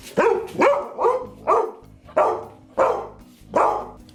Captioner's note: dog barking